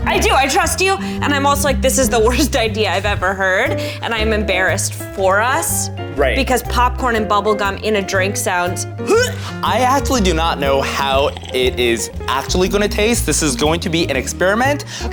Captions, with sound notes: - I do, I trust you. And I'm also like, this is the worst idea I've ever heard. And I'm embarrassed for us. - Right. - Because popcorn and bubblegum in a drink sounds (gags). - I actually do not know how it is actually gonna taste. This is going to be an experiment.